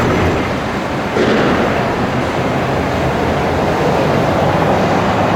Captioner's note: rumbling of man lift; traffic and distant construction noise